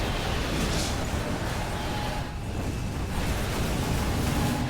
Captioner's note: explosion sounds